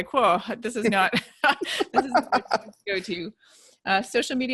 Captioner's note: laughing